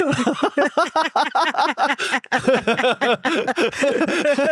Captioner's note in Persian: خنده